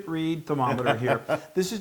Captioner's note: laugh